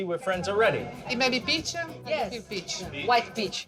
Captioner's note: whispering